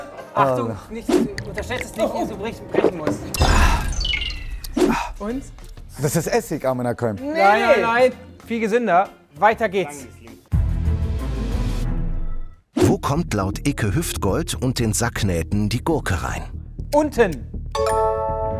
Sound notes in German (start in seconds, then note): 3.3 genüsslich; 10.5 Spannungsvolle Musik